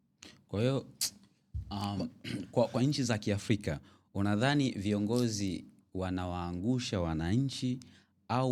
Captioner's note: clearing throat